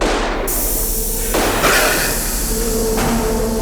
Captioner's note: hissing; gun bangs